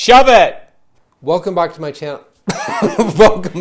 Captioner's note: laughs